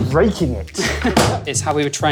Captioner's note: laughs